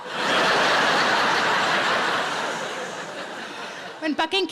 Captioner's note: audience laughs